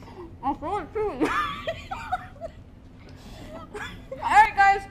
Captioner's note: laughs